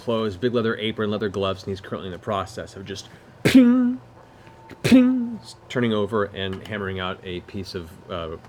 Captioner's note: ping ping